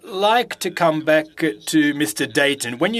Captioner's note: speaking French